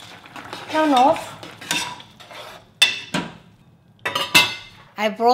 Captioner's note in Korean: 냄비 뚜껑, 국자 부딪치는 소리